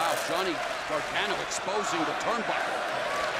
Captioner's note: crowd cheering